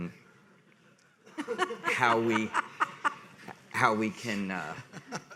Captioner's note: people laughing